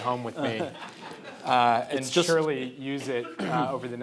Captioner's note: audience laughing